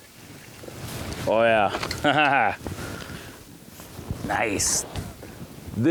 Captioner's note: laughs